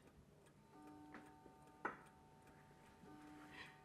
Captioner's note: clock chiming